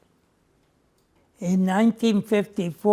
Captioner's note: none